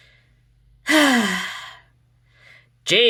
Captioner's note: sighs heavily once again